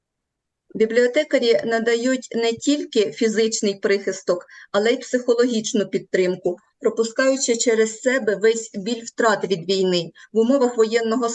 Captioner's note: foreign Language